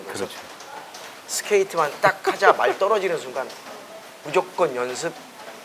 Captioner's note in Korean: 웃음